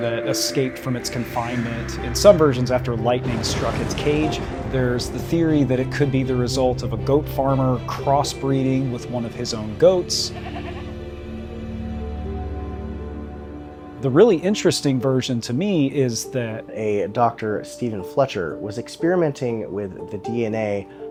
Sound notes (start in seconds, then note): 10.2 goat bleating